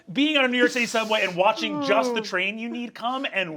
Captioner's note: Sam sighing